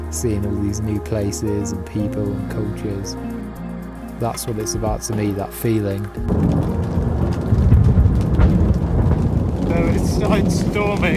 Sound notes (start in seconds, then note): 6.0 thunder rumbling